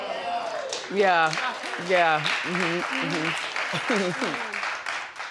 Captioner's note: audience applauding